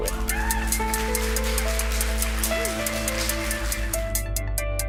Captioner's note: applause